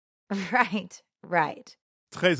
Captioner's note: woman, laughing